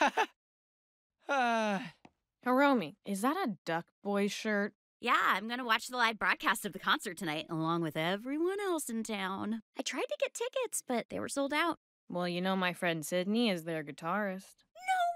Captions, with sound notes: (LAUGHS NERVOUSLY) (SIGHS) Hiromi, Is that a Duck Boyz shirt? Yeah. I'm gonna watch the live broadcast of the concert tonight, along with everyone else in town. I tried to get tickets but they were sold out. Well, you know, my friend Sydney is their guitarist.